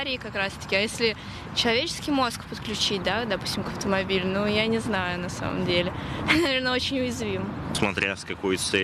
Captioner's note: car